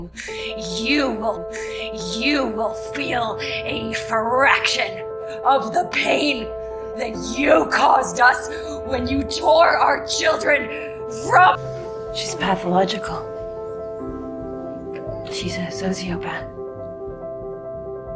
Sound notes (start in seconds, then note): 7.6 shouting; 12.2 voiceover; 15.5 voiceover